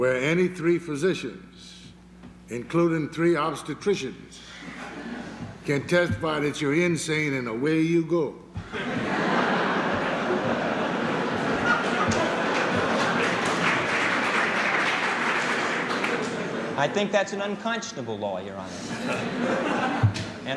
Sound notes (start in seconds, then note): 8.6 laughter; 11.6 applause